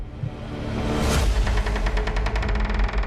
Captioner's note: door creaking